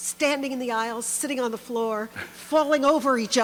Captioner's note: chuckles